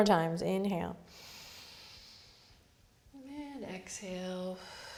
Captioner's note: inhales; exhales